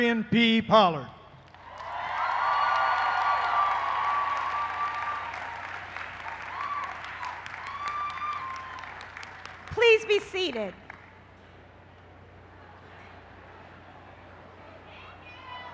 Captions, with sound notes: >> LADIES AND GENTLEMEN, PLEASE WELCOME THE PRESIDENT OF MONTGOMERY COLLEGE, DR. DERIONNE P. POLLARD. [ CHEERS AND APPLAUSE ] >> PLEASE BE SEATED.